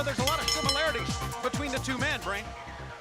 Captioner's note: bell ringing